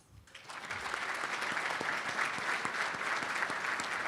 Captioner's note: applauding